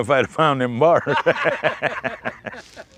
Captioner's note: laughter